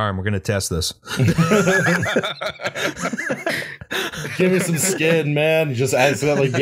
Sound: laughter

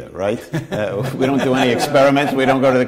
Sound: laughter

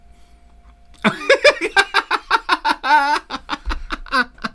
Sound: hysterical Laughter

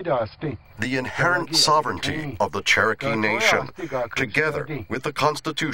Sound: Spoken Cherokee

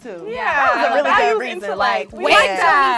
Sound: women talking

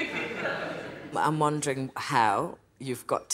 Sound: audience laughter

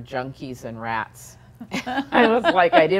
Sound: both laughing

